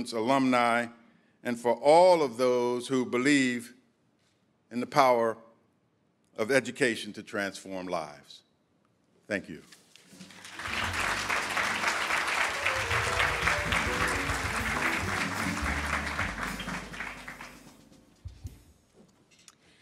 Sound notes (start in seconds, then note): 10.2 audience applauding; 12.5 upbeat jazz music